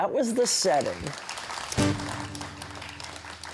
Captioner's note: applause